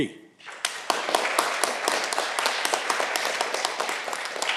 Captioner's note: audience clapping